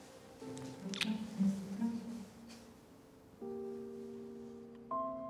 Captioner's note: lips smacking; gentle music